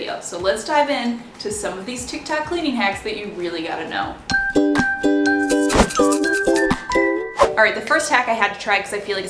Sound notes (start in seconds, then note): 4.4 bright music; 5.5 whooshing